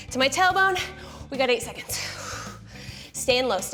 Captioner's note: exhales